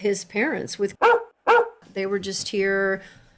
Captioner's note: bark, Bark